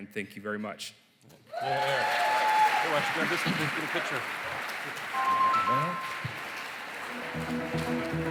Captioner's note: cheering, applause